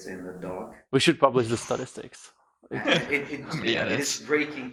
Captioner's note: laughing